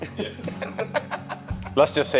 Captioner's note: laugh